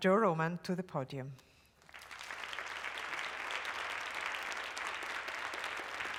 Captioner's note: applause